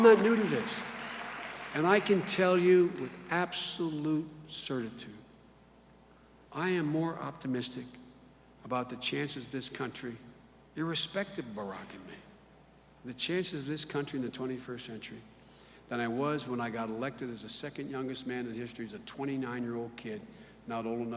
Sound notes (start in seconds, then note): 1.6 cheers and applause